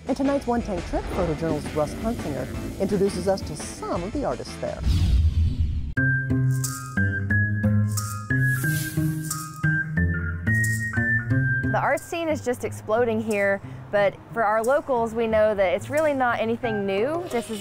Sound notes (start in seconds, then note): 4.8 air whooshing; 6.1 soft music